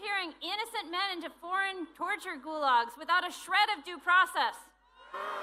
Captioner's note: booing